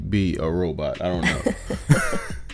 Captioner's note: both laugh